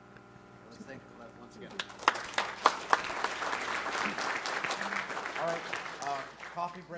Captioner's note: applause